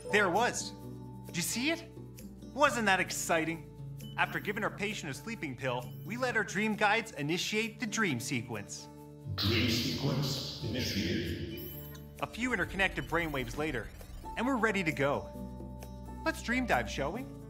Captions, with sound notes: There it was. Did you see it? Wasn't that exciting? -After giving our patient a sleeping pill. We let our dream guides initiate the dream sequence. [robotic voice] Dream sequence initiating. -A few interconnected brainwaves later and we're ready to go. Let's dream dive, shall we?